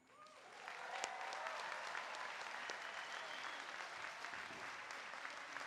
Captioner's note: applause